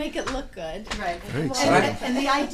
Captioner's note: voiceover